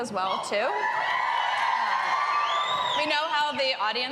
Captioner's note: cheering and applause